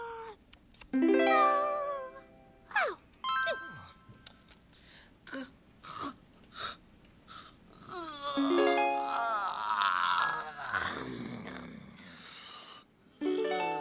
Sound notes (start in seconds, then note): 8.9 yawning